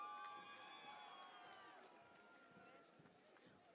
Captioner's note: cheering and Applause